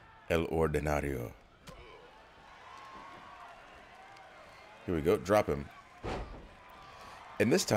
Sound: applause

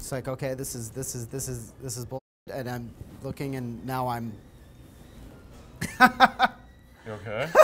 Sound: laughing

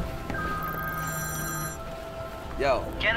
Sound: phone rings

